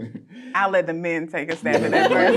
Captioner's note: laughing